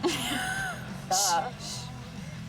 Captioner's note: laughs